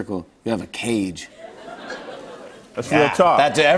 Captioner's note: light laughter